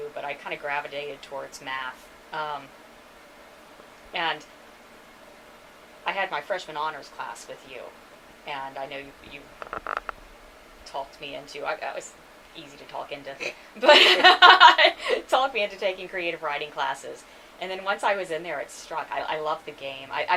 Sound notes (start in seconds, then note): 13.8 laughs